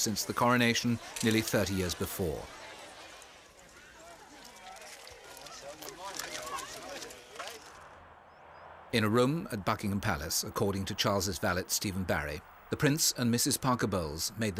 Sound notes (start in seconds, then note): 3.5 crowd chatting; 3.9 cameras clicking